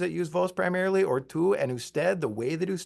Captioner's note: speaks in Spanish